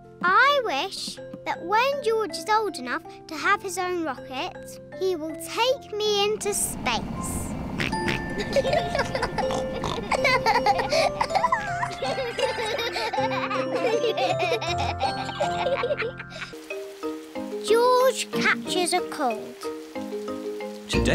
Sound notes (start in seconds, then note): 8.0 oinks; 8.0 both giggle